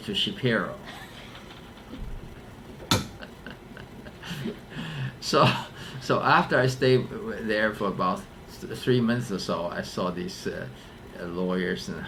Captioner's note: laughs